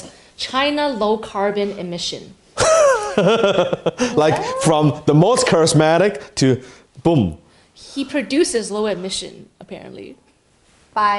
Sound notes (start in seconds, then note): 2.6 laughs heartily